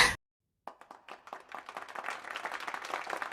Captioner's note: applauses